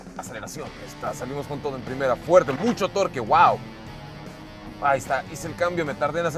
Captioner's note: laughs